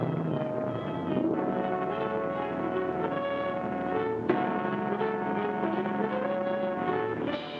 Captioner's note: boat hums; dramatic music